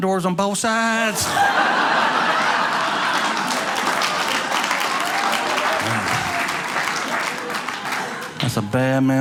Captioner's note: audience laughing